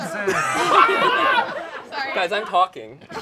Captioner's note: all laugh